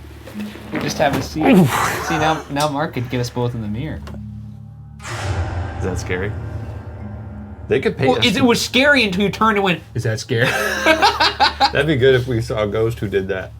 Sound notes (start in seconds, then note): 1.4 grunts; 5.1 ominous music; 10.4 laughing